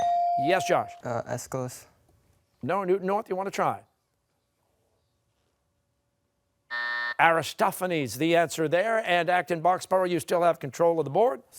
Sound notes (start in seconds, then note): 6.7 buzzer